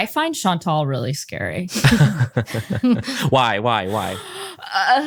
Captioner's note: laugh